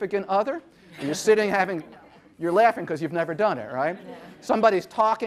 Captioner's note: audience laughs